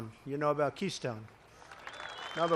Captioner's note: applause